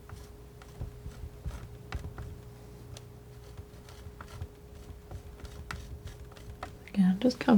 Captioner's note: tapping